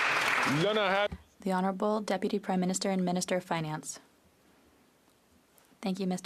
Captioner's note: applause